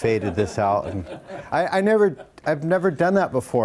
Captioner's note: audience laughs